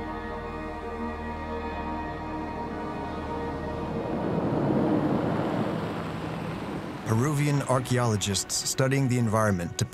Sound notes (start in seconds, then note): 4.4 car engines humming